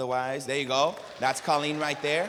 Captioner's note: applause